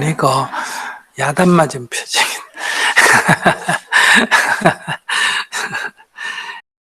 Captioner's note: laughter